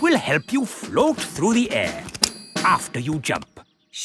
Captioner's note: clicking